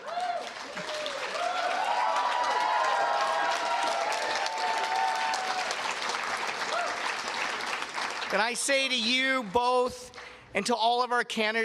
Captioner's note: cheers and Applause